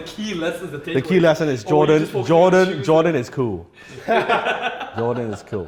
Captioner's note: laughs